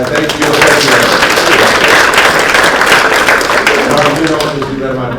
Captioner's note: applause